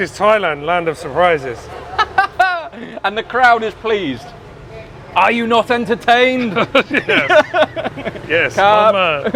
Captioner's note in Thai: เสียงหัวเราะ